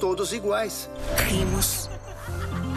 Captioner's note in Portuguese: risos